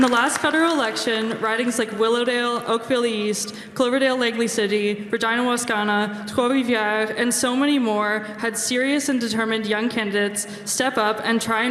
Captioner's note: cheering and applause